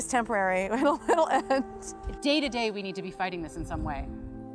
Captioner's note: laughter